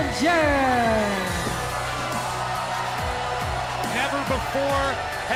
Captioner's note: crowd cheering